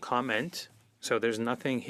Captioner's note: speaking in French